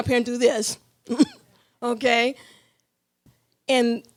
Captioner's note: laughing